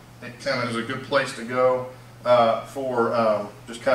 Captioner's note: none